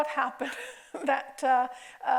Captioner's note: chuckling